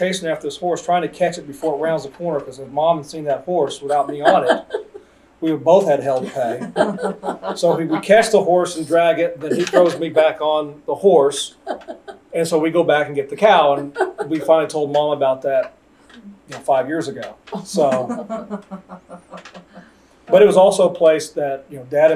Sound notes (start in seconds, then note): 6.2 laughter; 18.2 laughter